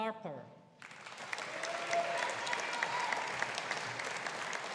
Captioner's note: audience applauding